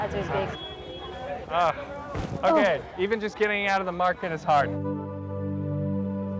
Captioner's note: climbing over stuff